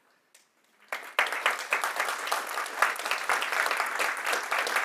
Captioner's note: audience applauding